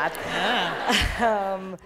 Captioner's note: laughter